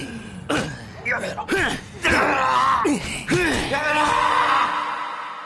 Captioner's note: man howls, cries out in pain